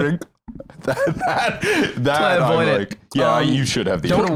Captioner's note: laughing